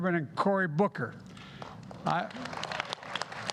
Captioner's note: applause